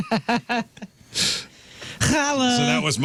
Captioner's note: laughter